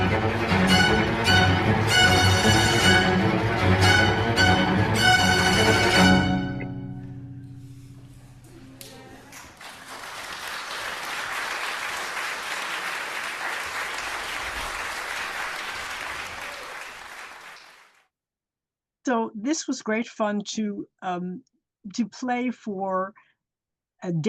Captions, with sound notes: (upbeat instrumental music) (audience clapping) So, this was great fun to play for a Danish audience